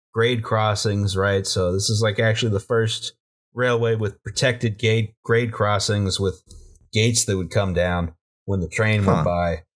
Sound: none

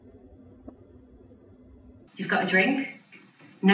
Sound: slightly distorted sound

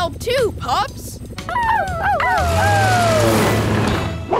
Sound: howling

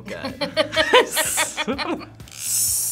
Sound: both laugh

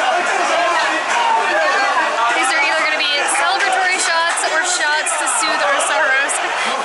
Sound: laughter

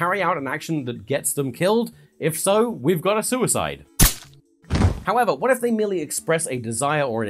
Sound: gunshot

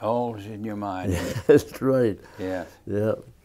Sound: laughing

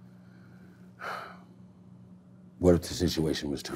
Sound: breathing heavily

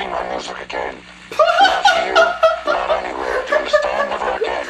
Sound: laughs

